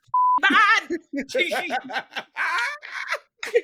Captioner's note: laughing